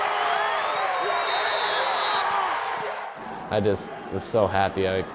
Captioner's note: cheering crowd